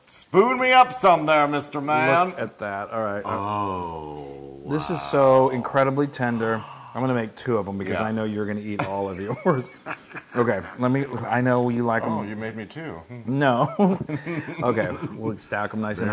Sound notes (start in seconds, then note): 8.7 laugh; 13.7 laugh